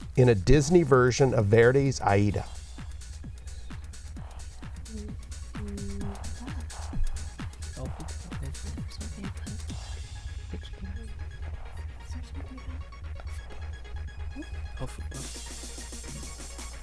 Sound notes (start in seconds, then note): 3.5 wispering